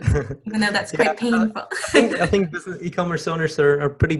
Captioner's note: laughing